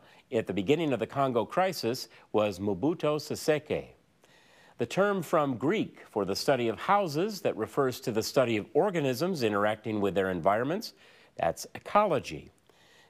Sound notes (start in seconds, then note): none